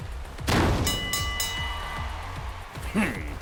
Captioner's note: baaang!!!!